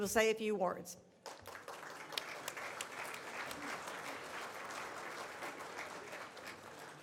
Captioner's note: audience applauds